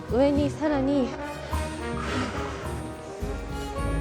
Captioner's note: take a deep breath